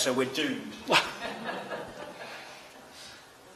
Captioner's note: laughter